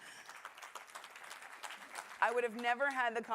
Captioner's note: applause